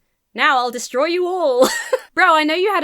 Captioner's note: giggles